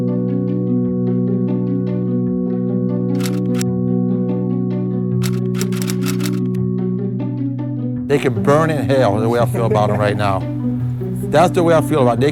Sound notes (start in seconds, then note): 3.1 typewriter keys clicking